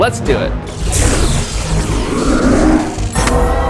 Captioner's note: magic noises